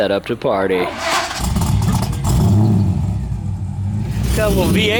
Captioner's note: roaring engine